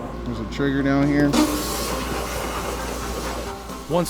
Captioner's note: machine hissing